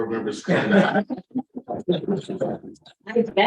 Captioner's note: laughter